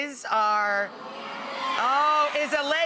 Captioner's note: audience cheering